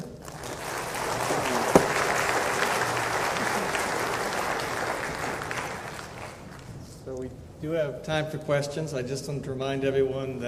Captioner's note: applause